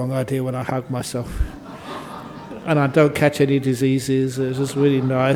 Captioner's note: laughter